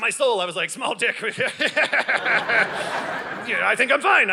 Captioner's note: audience laughing